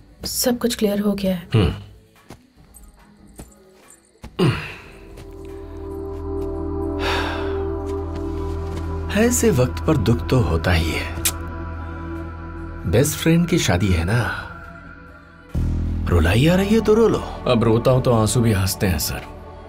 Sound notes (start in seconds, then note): 2.5 anklet tinkling; 4.3 sighing